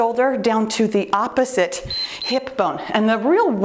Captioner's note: timer beeps